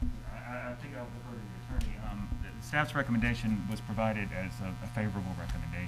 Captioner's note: speaking off mic